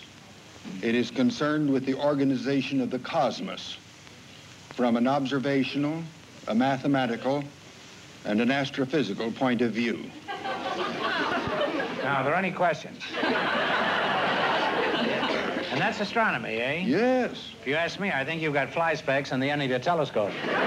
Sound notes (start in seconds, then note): 13.0 laughter; 20.2 laughter